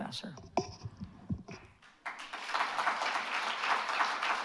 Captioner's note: applause